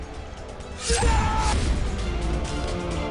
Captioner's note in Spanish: Gritos